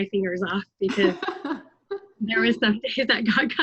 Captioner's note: laughter